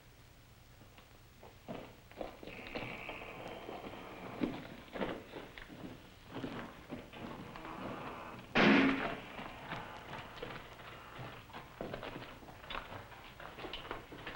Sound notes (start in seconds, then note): 2.5 gate creaks; 8.5 gate slams